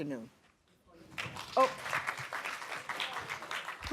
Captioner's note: applause